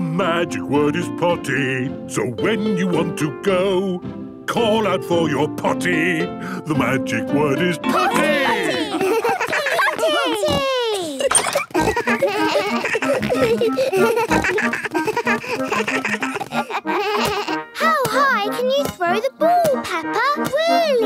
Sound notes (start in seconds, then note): 11.7 giggles; 14.0 snorts, bleating